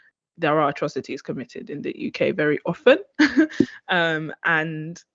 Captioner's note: chuckles